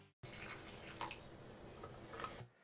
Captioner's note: coffee trickles